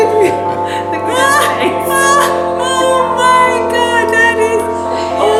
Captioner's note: laughter